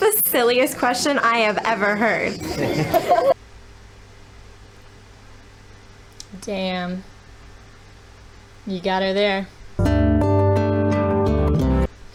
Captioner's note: children snickering at an adult woman